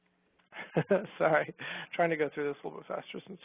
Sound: laughs

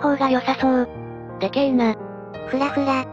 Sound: laughs

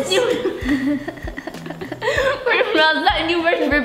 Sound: laughing

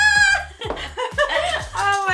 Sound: laughing

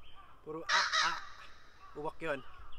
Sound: imitating a crow's caw

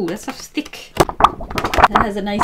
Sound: paper wobbling

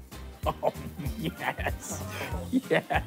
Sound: laughing

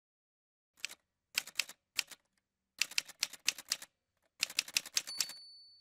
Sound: typewriter sounds

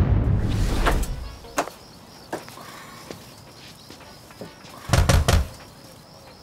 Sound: crickets chirping; door knocking

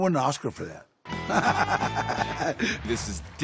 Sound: laughs

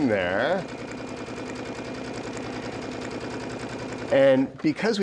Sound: sewing machine whirring

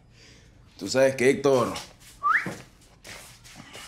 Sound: whistling

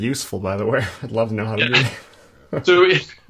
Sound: laughter

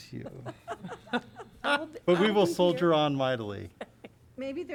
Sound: laughter

